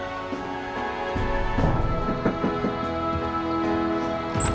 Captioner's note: knocking at door